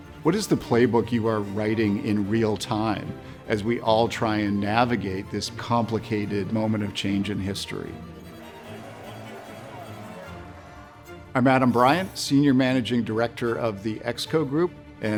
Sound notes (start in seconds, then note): 8.3 crowds speaking faintly; 8.7 stirring music